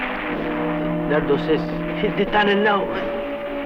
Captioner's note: non-english